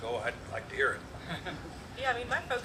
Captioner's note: chuckles